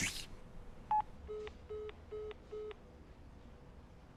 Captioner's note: end of communication signal